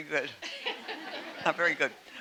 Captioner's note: audience laughing